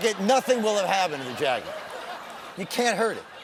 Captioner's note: laughter